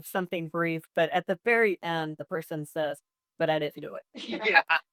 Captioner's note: laughs